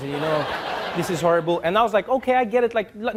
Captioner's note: audience laughing